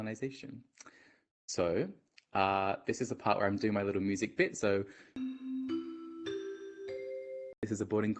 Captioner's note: ♫ announcement bell sound ♫